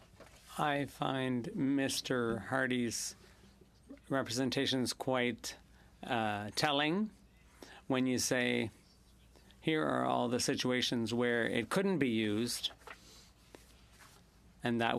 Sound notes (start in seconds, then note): 3.9 speaking French